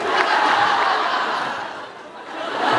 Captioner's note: laughs